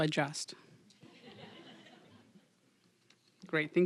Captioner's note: audience laughing